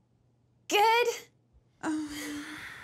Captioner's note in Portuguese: Anne suspira